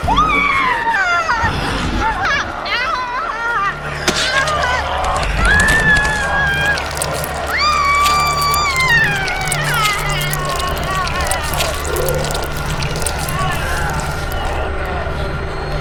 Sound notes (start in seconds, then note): 0.1 Desiree yells; 4.1 flesh splatting